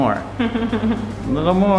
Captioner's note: chuckling